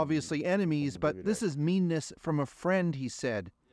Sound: speaking alternate language

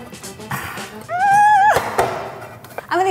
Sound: low yell

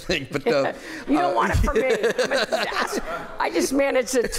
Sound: laughter

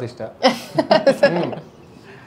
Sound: laughing

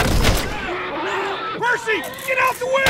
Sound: man screams

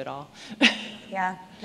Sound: laughing

